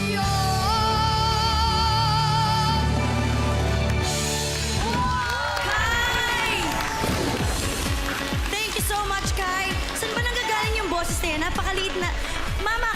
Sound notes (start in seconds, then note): 3.7 music fades; 5.0 crowd cheers, applauds; 7.3 upbeat music playing